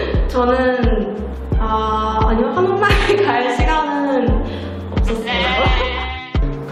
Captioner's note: laugh